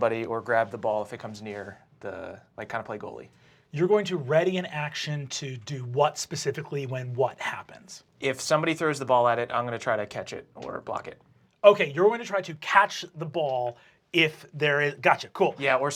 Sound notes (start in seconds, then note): none